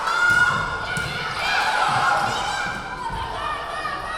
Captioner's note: yelling